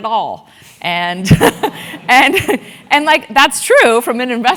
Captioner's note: laugh